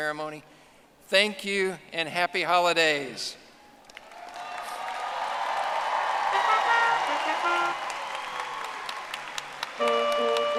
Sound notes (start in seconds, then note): 6.3 audience applauding; 9.6 triumphant music